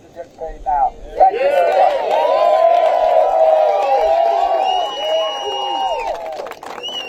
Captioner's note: applause